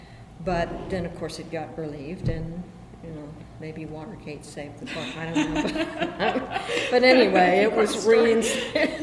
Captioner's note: BOTH laugh